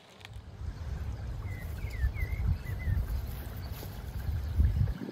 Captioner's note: heavy winds blowing